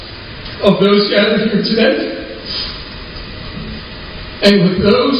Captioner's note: sniffling